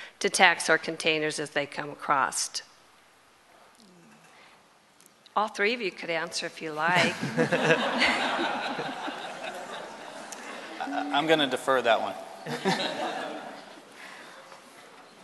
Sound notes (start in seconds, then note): 6.9 laughter